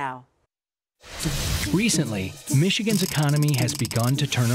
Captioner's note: voiceover